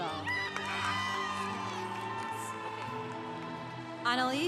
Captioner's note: congregation applauding